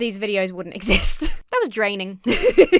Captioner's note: laughs